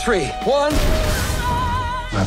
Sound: explosion

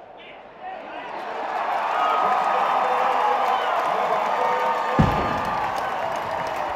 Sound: cheering

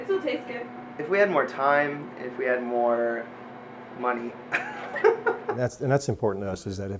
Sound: laughs

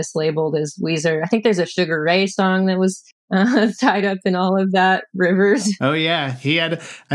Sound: laughter; laughter

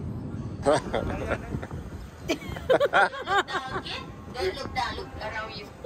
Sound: laughing

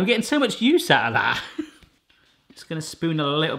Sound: soft chuckle

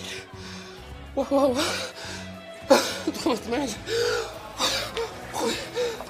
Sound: with trembling voice

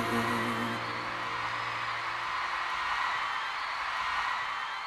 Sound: crowd cheers

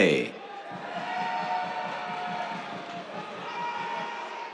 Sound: cheers

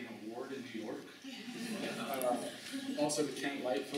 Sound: laughter

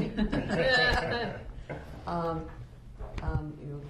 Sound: laughter

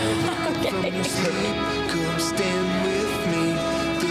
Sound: laughs

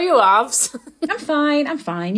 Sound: laughing

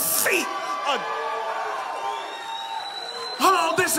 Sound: congregation cheering

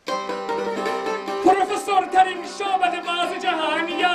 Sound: fake celebrating sound

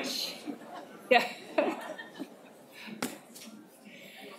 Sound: laughs

